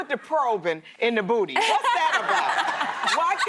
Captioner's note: laughter